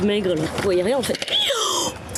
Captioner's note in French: bruit de détresse